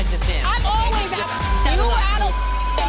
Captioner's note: beeping